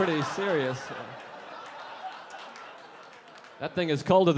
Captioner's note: audience laughing